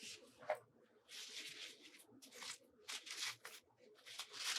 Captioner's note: none